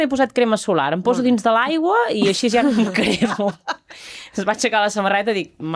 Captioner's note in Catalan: rialles